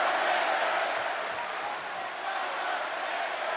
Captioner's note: audience clapping